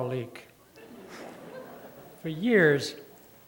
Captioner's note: laughter